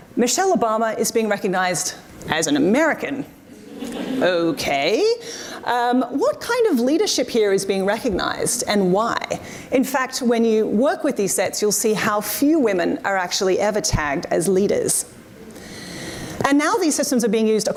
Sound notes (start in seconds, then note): 3.6 audience responds